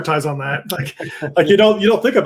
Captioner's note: laughs